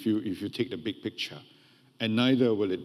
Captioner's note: none